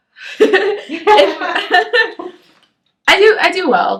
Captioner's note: both laugh